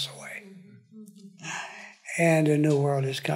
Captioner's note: audience affirms